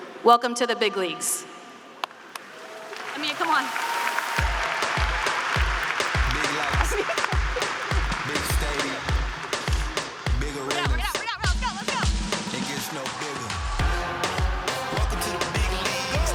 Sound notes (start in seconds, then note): 2.5 students cheering and applauding; 6.1 laughing